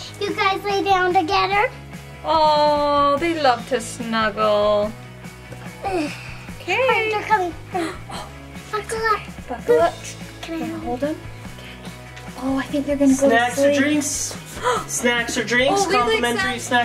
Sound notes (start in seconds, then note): 7.8 mom gasping